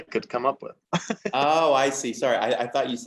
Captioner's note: laughs